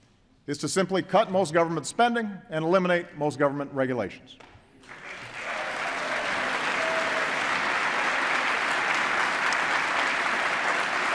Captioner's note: applause